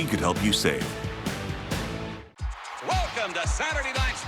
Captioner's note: cheers and applause